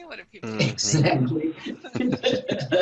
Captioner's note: laughing